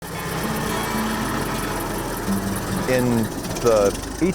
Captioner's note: car noise